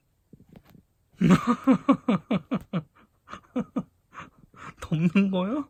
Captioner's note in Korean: 웃음